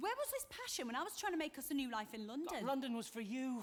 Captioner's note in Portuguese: none